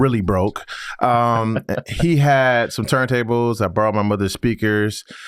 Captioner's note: laughs